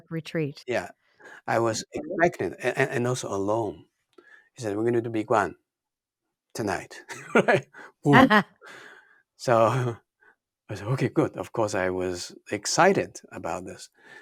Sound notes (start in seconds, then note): 7.0 laughs